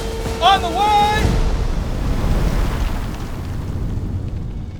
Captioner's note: cannon blasts